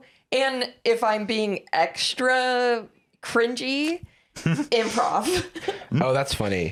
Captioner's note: laughs